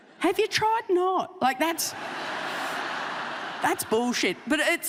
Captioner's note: audience laughing